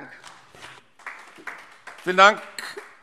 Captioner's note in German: Beifall AfD